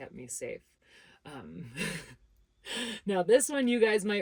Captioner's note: laughs